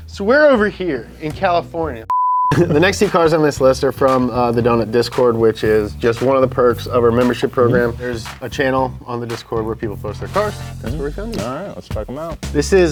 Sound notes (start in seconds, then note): 2.1 video beeps